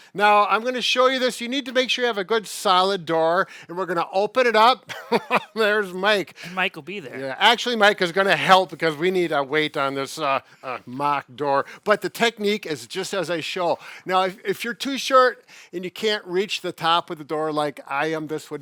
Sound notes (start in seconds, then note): 4.9 laughs